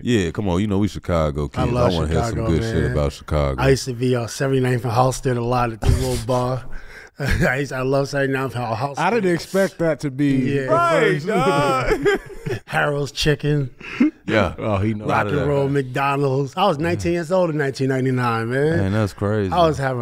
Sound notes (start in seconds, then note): 12.2 group laughs